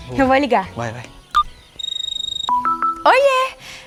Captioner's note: mobile phone ringing